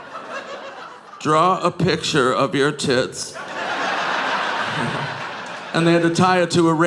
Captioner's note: audience laughing